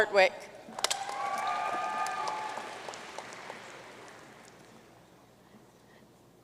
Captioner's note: audience cheering and applauding